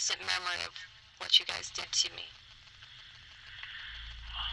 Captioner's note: sighs